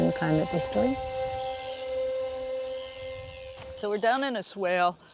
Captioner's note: birds chirping